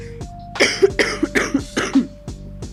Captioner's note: coughs like crazy lmao